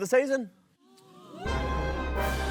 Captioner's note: all gasp; dramatic music plays